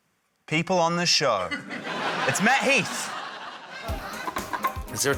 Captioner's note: laughter